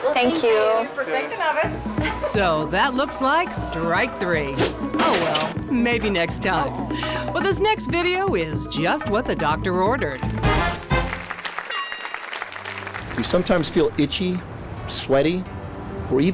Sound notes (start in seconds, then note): 11.7 ding; 12.1 audience applauds